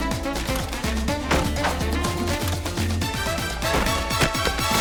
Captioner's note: knife clatters; door slams